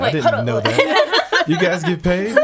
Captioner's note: laughing